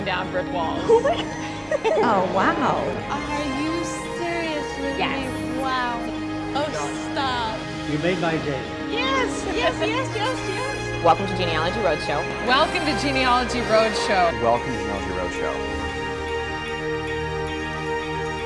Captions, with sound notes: brick walls. - Oh, my God (laughs)! - Oh, wow! - Are you serious with me? Wow! - Oh, stop. - You made my day. - Yes, yes, yes, yes! - Welcome to Genealogy Roadshow. - Welcome to Genealogy Roadshow. - Welcome to Genealogy Roadshow. (uplifting music)